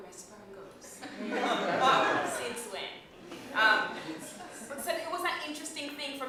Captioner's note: laughter